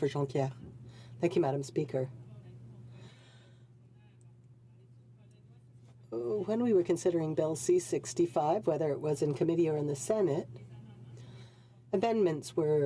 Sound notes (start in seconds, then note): 1.8 speaking French